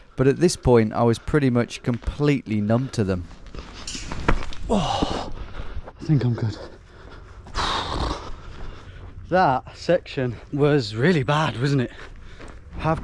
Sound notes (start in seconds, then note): 3.9 feet stomping; 7.6 exhaling heavily